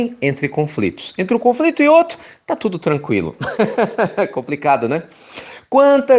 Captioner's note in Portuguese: risos